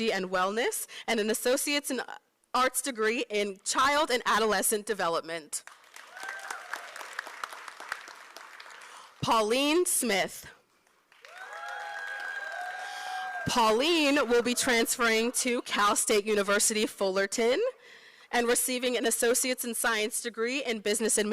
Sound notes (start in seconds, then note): 5.6 applause; 10.8 applause